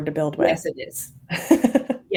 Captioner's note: laughs